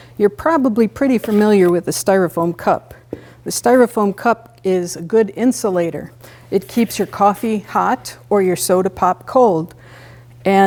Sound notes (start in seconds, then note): none